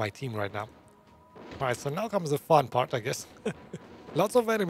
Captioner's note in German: lacht